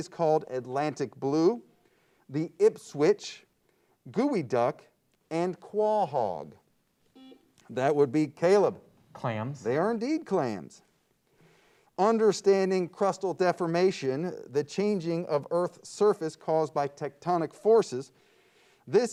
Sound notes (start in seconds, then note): 7.1 buzzer beeps